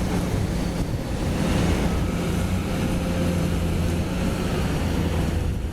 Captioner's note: engine Rev